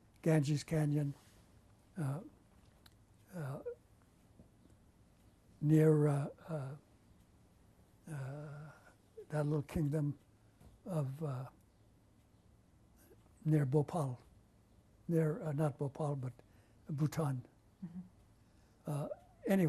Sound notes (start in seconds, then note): 6.1 pauses for 3 seconds